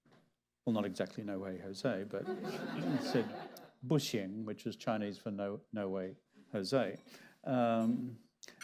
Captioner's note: laughter